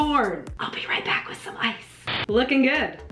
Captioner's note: whispering